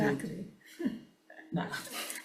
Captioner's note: chuckles; laughs